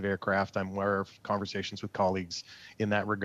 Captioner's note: speaking French